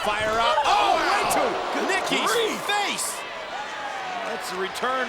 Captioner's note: spectators exclaiming